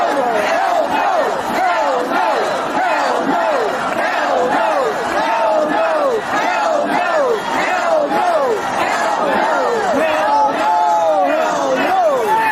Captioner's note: chanting